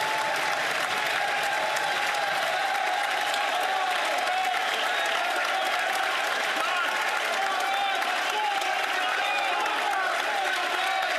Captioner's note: some Applause